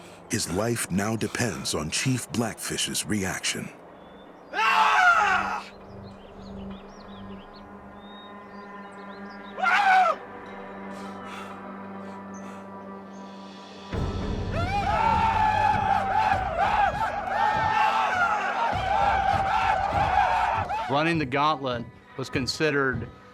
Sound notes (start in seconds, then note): 4.4 boone yells; 9.4 boone yells; 14.5 shawnee whooping; 18.3 all men shouting